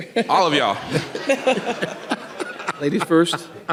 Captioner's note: people laughing